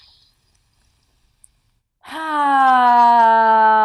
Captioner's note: sighs loudly